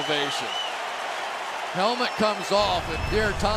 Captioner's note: crowd cheering